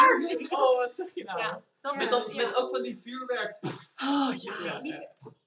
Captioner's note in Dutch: poef